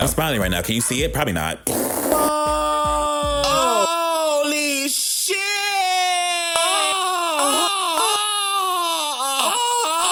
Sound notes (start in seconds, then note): 1.6 blows raspberry; 6.2 moaning